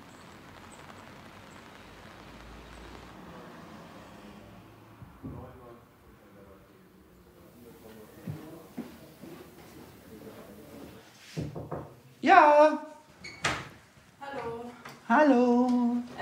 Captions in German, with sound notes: *Klopfen* Ja - Hallo Hallo